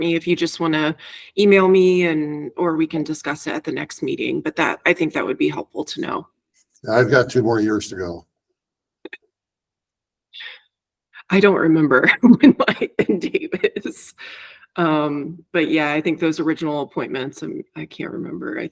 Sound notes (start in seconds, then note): 12.2 chuckles